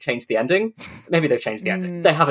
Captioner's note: snorts